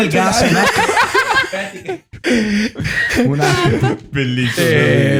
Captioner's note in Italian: laughter